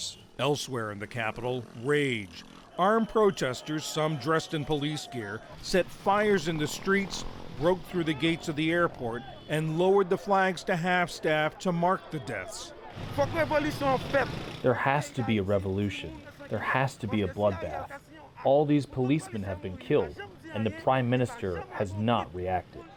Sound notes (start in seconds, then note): 13.8 through translator